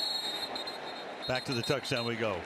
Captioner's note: whistle